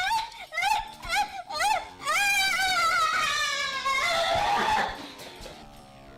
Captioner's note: screaming